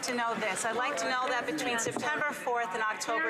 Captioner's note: some Applause